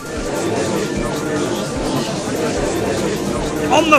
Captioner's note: gallery chattering